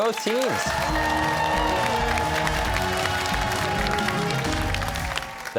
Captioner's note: cheers and applause